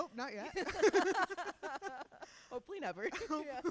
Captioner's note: laughing